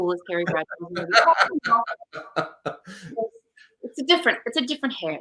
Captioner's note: laughs